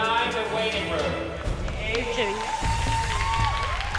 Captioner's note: cheering, whooping